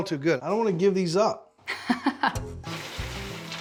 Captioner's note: laughter